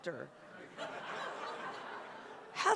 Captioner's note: laughter